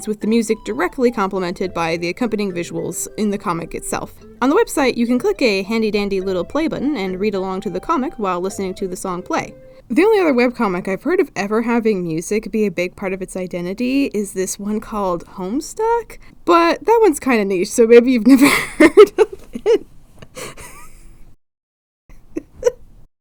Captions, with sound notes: with the music DIRECTLY complimented by the accompanying visuals in the comic itself. On the website, you can click a handy-dandy little play button and read along to the comic while listening to the song play. The only other webcomic I’ve heard of ever having music be a big part of its identity is this one called Homestuck? but that one's kinda niche, so maybe you’ve never heard of- Heh!! [Wheeze] [laughs]